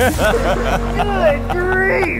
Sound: all laughing

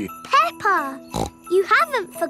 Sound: snorts

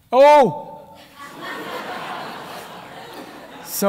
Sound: laughter

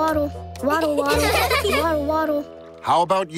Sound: laughing

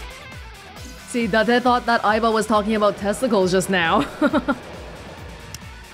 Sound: chuckles

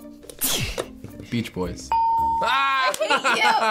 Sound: ding

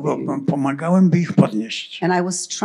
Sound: foreign language

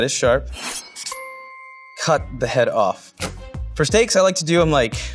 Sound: dinging

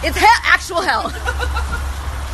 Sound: grant laughing

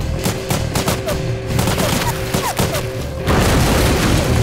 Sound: gun blasting

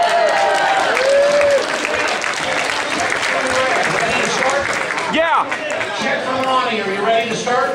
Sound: cheering

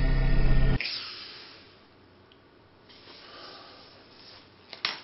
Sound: gasp

